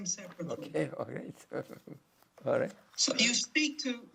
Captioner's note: laughing